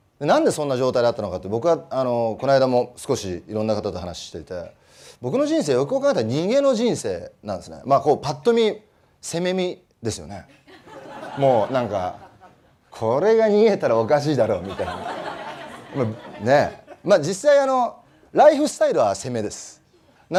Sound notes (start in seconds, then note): 11.5 laugh